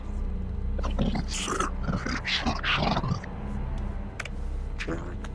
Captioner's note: distorted voice grumbles